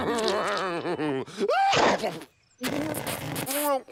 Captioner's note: lips puckering